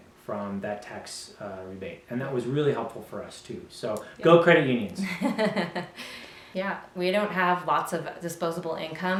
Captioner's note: laugh